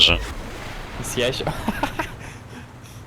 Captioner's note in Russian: смех